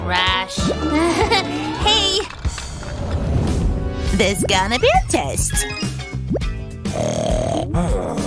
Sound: snoring

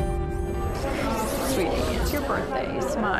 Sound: crowd chatters

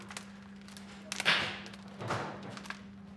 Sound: stapling in the background

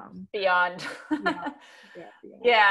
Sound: laughs

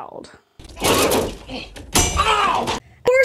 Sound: fighting sounds

